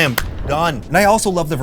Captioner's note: clap